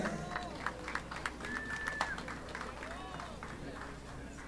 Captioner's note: audience clapping